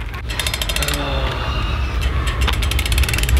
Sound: winding shoe buckles; gears winding

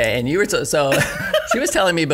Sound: laughing

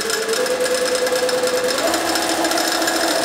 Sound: hammering sound, whirring

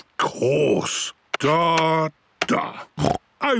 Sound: snorts

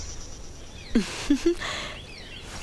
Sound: chuckles

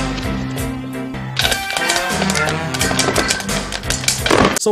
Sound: sexy popcorn sounds

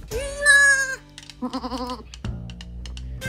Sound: goats bleat

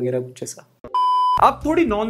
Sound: beep

